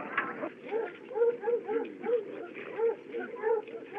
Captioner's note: dog Barking